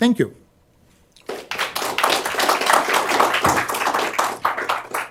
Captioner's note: applause